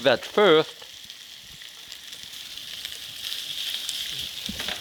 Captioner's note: sausage sizzling